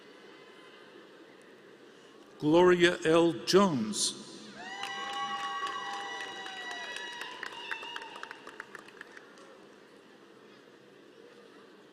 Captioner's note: applause